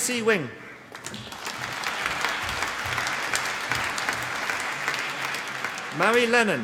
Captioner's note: applause